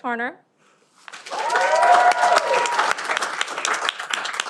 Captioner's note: cheering